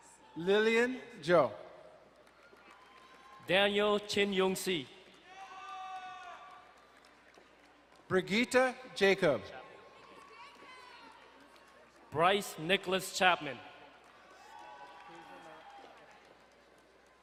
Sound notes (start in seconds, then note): 2.2 distant cheering; 5.2 crowd cheering and applauding; 13.8 distant cheering